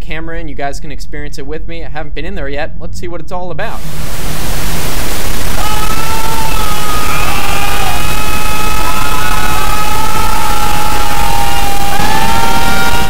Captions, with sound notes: I'll take the camera and you guys can experience it with me. I haven't been in there yet, let's see what it's all about. *static and yelling*